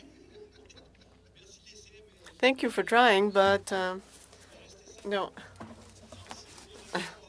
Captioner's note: chuckles